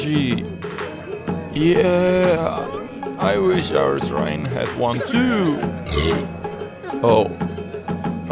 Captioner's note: burps